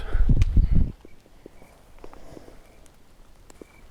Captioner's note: crickets chirping